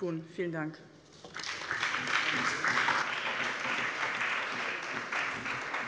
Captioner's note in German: Allgemeiner Beifall